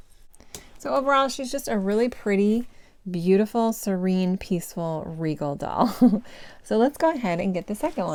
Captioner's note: giggle